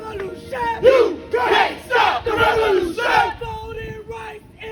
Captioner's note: crowd chanting